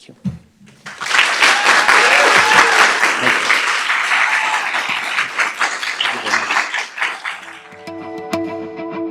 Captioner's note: applause